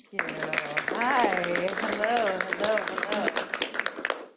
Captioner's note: applause